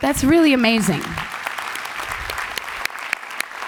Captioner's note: applause